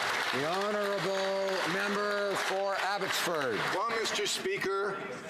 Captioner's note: some Applause